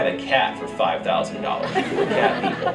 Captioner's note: laughter